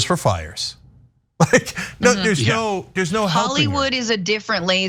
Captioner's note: laugh